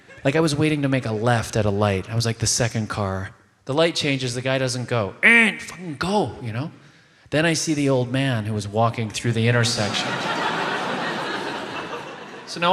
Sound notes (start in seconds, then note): 5.8 honks; 9.6 audience laughs